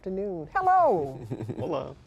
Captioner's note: chuckles